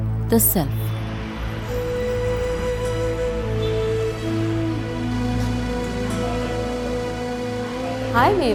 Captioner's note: gentle music; car engine revving